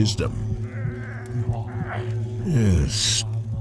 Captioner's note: crying in pain